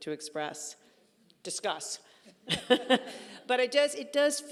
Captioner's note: laughing